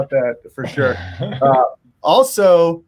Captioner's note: laughing